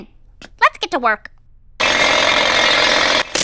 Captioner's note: jackhammer rattles loudly